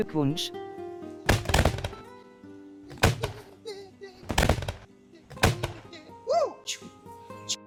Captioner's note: fireworks